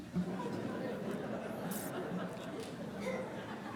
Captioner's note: laughter